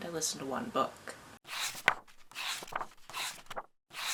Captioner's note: pages turning